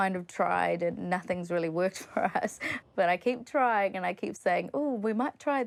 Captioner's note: chuckles